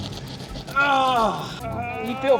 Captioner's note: groaning